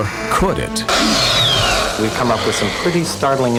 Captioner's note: dinosaur roars